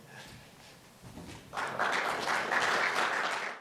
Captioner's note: audience applauds